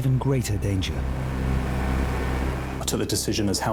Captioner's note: lifeboat engine whirring